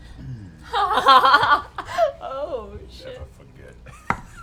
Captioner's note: laughs